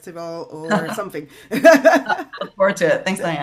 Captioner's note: laughs